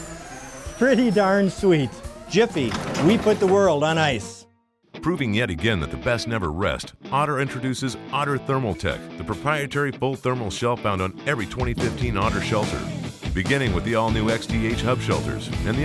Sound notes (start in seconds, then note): 0.0 siren sounds; 5.2 voiceover